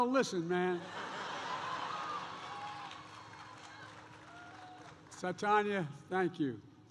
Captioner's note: laughter